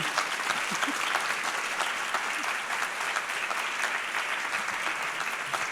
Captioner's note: applause